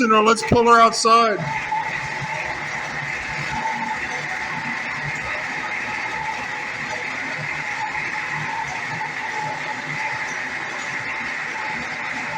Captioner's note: engine idling